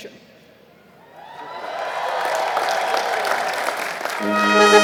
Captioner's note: applause